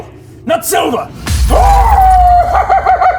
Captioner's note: smash